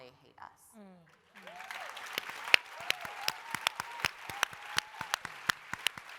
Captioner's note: applause, cheering